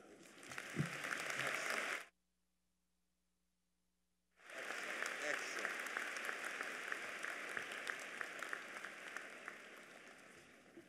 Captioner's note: applause